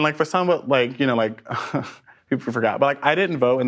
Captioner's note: laughs